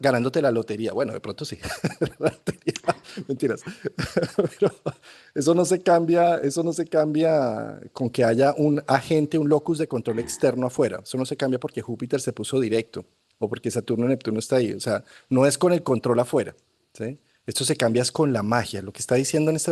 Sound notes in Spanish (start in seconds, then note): 1.6 risas